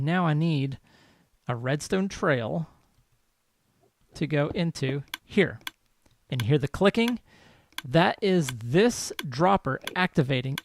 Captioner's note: steady clicking